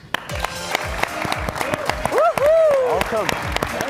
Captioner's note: all clapping and cheering